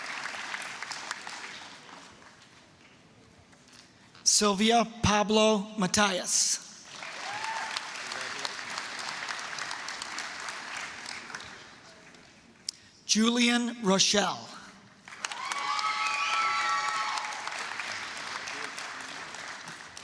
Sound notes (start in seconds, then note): 0.0 applause; 6.8 applause, cheering; 15.0 applause, cheering